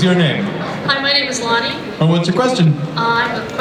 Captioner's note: voiceover